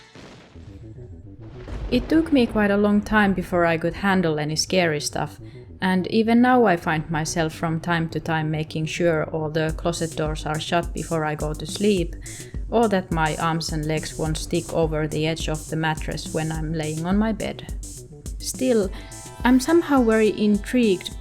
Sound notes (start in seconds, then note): 1.5 𝘵𝘩𝘶𝘯𝘥𝘦𝘳